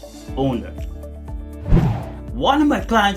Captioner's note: air swooshing